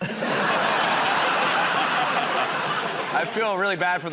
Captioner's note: laughter